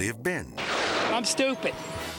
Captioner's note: thunder clashing